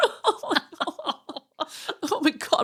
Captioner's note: laughing